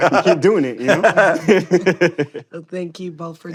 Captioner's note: laughter